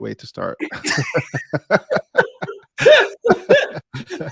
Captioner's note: both laughing